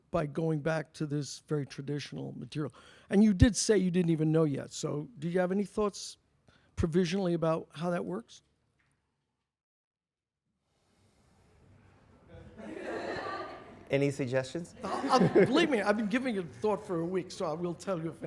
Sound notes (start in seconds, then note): 12.4 audience laughs; 15.3 voiceover